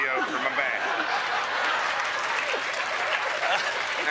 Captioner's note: laughter and applause